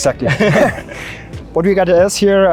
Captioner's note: laugh